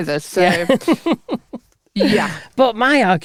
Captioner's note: laughing